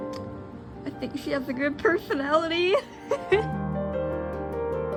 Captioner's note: laughs